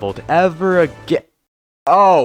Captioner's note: stunned silence